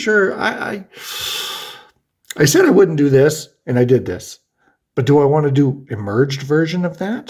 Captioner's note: inhales